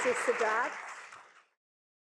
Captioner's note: applause